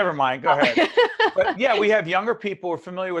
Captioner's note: laughing